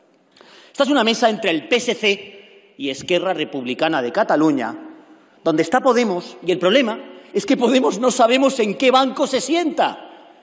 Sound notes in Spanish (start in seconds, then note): none